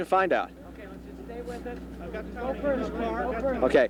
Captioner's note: people chattering